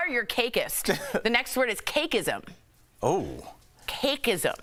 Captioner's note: laughter